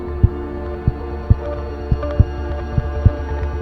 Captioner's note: fast heart beat continues